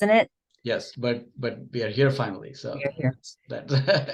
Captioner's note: laughs